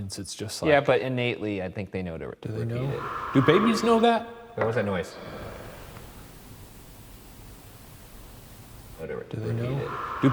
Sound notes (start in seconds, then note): 2.5 someone breathing